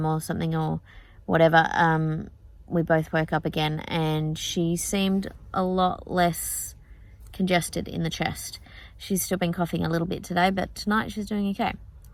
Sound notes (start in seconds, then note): none